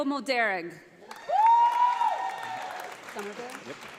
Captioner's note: audience applauding